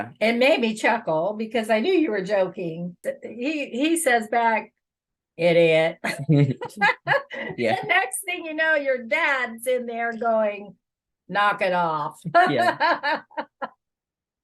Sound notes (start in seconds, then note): 13.0 chuckle